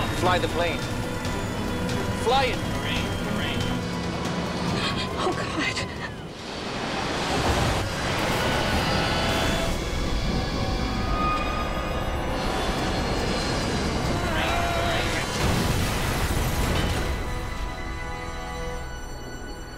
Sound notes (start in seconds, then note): 6.8 dramatic music; 6.8 plane engine humming; 15.1 crash booms